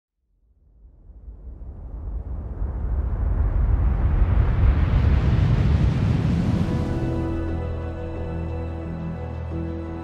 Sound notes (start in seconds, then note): 1.4 whooshing; 6.5 melancholy music